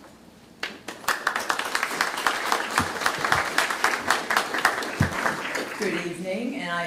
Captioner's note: applause